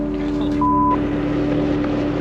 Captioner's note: beep